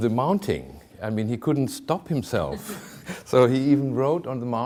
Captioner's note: chuckling